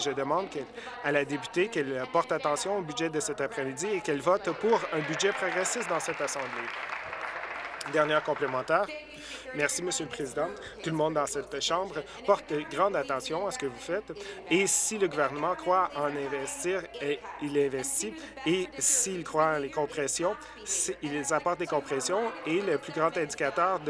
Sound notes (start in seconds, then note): 8.4 applause